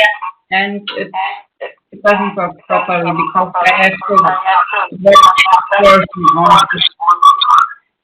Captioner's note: feedback noise